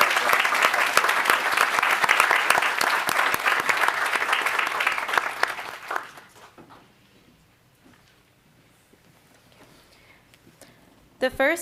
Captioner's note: applause